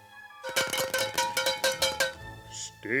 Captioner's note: cowbell